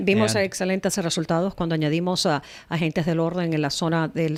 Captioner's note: Hablando ingl\s